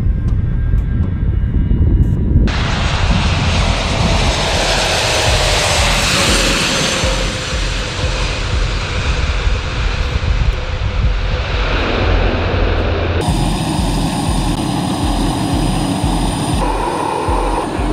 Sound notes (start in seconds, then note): 3.2 engines whir